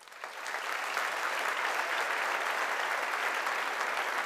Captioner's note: audience applauding